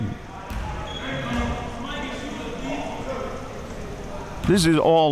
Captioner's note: audience chattering and yelling